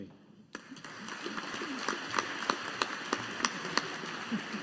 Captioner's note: audience applauding